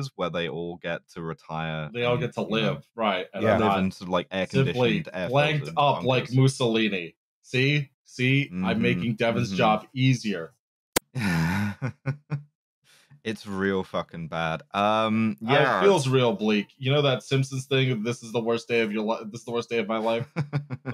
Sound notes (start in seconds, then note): 11.2 chuckles